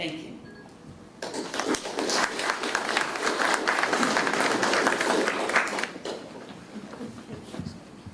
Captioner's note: applause